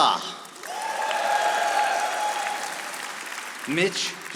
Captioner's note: audience applauding